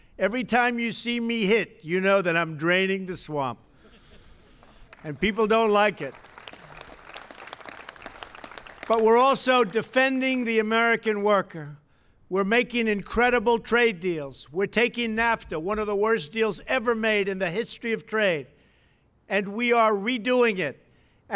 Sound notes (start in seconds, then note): 3.7 laughter; 6.9 applause